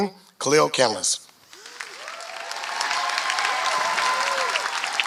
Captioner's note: applause